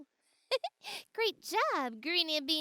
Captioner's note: Marvie giggles